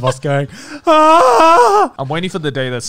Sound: yelling

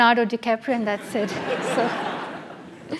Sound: laugh

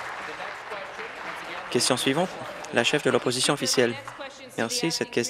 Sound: applause

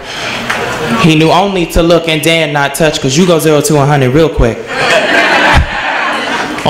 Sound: laughs

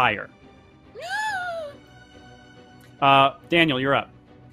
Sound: gasps

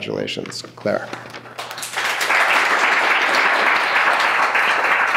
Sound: clapping

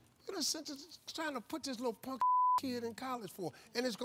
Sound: beep

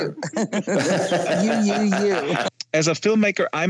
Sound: laughs

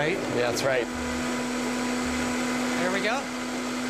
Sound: blender whirring

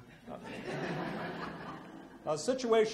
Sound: audience laughs

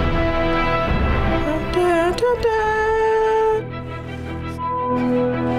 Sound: hums along

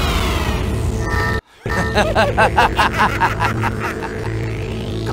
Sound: laughter

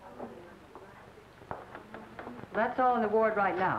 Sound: door creaks, footsteps

